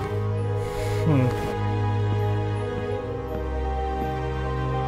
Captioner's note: The Prince sighs